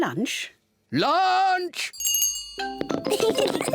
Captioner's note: rings bell; both laugh